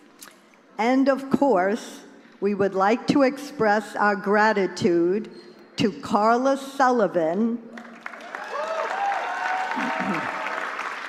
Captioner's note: applause